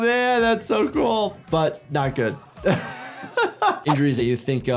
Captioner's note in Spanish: risas